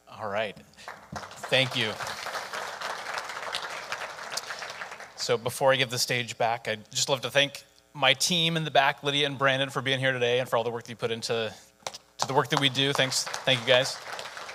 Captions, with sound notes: All right, thank you. (audience applauding) So before I give the stage back, I'd just love to thank my team in the back, Lydia and Brandon for being here today and for all the work that you put into the work that we do. Thanks. Thank you guys.